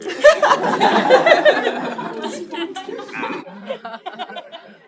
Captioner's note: laughing